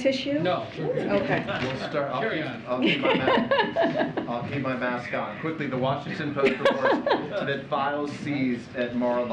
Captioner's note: laughter